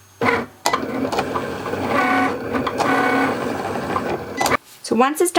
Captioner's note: Cricut machine whirring